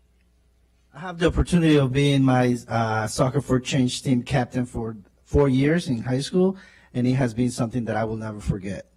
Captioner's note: spanish